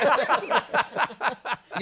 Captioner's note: laughter